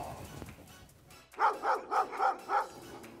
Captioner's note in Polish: Szczekanie psów